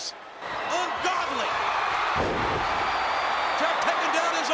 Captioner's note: audience cheering